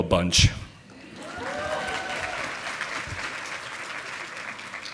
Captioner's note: audience applauding